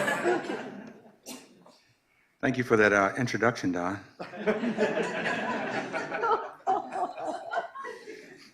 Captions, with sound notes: - Thank you for that introduction, Don. (laughter)